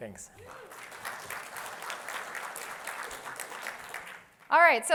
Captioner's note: applause